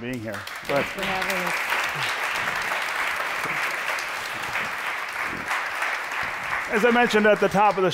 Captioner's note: applause